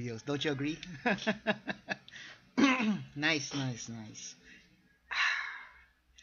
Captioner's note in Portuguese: Risada